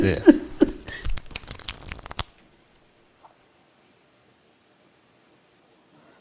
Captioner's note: chuckling; cards flapping